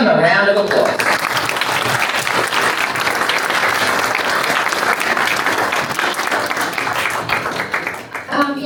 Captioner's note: applause